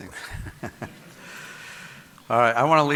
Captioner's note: audience laughing